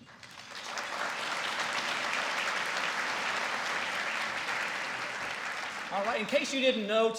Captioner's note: applause